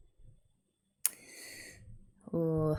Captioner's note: intake of breath